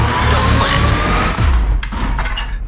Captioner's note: wood Shattering